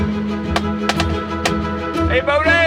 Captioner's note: tooting